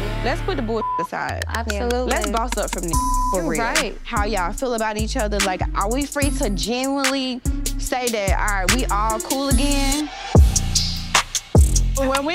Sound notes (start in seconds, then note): 0.6 beep; 10.9 dramatic music